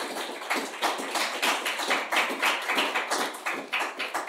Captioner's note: audience applause